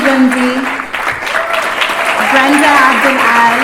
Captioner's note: applause